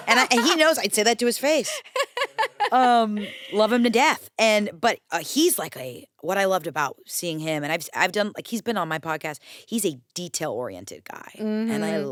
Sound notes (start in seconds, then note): 1.6 laughs